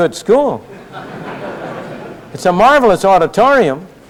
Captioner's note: laughter